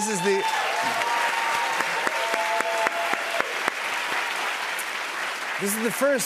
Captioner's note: cheers and applause